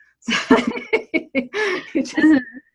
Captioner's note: laughs